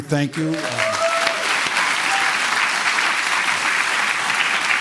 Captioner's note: applause